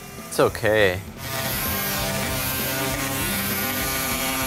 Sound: machine buzzing

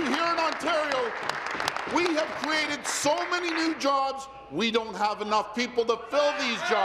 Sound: applause

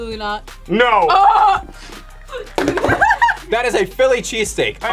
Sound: laughs

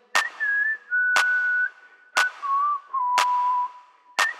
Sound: kids whistling

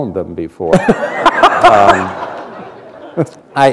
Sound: laughter

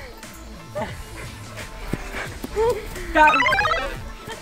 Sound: heavy breathing

